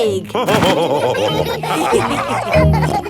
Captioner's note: all laughing